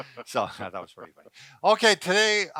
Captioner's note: laughing